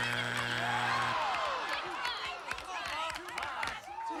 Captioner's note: audience moans